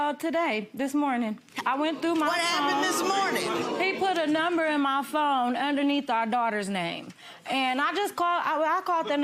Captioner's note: audience oohing